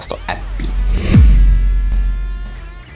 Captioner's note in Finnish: siirtymä-äänitehoste